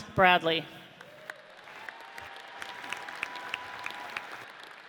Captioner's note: audience cheers